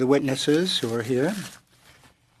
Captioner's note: speaking in French